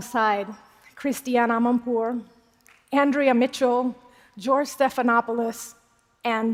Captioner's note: applause